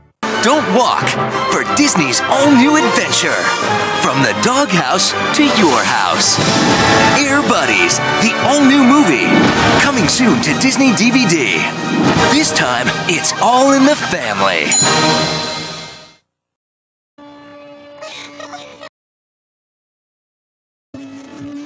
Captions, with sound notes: Don't walk for Disney's all-new adventure. from the doghouse take your house. Air Buddies the all-new movie. Coming soon to Disney DVD This December This time it's all your family. [crying]